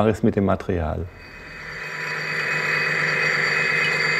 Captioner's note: even mechanical whirring